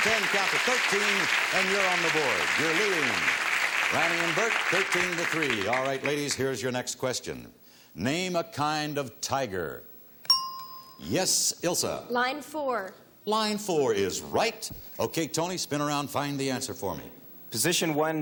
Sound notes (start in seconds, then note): 10.6 ting